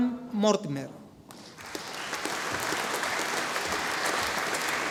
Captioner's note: audience applauding